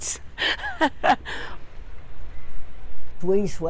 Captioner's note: laughs